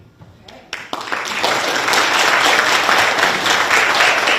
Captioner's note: people applauding